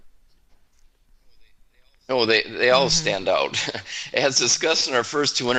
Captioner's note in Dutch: lachen